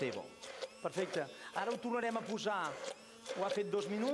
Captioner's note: non-english speech